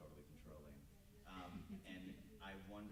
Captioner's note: group member chuckles